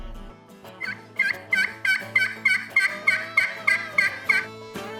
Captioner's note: instrumental music; turkey calling; bright music